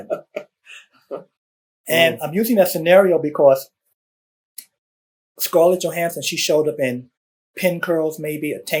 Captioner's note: laughter